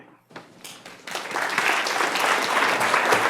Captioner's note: applause